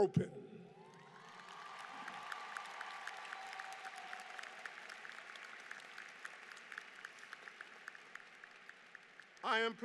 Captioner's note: applause